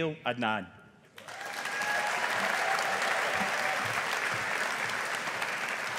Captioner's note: audience applauding